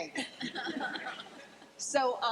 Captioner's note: laughing